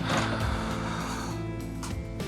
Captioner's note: sighs